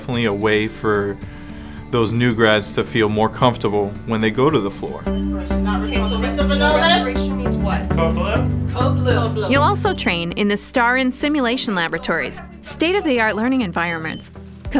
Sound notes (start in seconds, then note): 5.6 people speaking